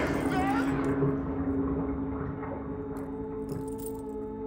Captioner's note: gurgling sink